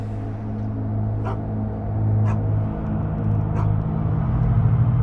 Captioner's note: dog barking